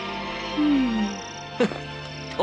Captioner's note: yawns; scoffs